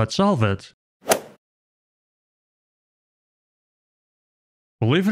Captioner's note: golf ball hit sound